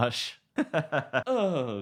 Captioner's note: laughing